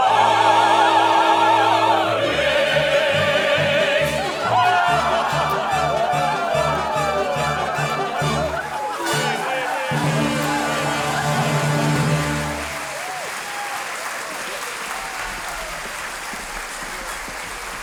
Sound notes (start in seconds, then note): 5.9 people chattering; 11.2 audience clapping